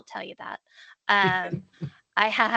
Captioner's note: chuckling